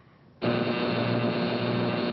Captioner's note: buzz